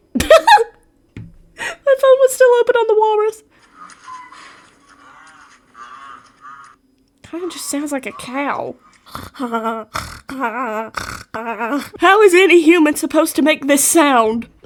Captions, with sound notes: *Laughs* My phone was still open on the walrus *Rhino sounds* Kind of just sounds like a cow? *Straight up just snorting* How is any human supposed to make this sound!?